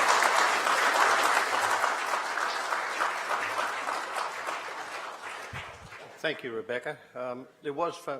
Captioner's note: applause